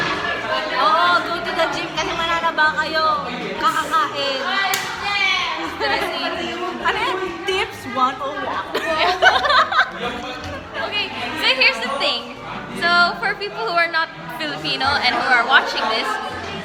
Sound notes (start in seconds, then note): 8.6 laughs; 8.7 laughter